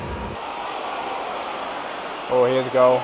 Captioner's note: crowd cheering